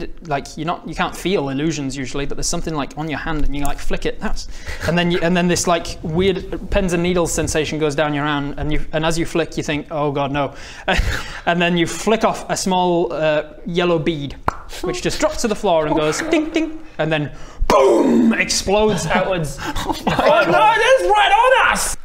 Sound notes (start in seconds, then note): 14.4 pop!; 15.8 dink dink